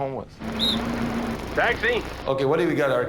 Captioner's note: whistling